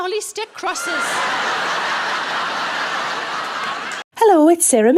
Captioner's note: audience laughing